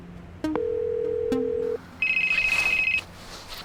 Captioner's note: phone rings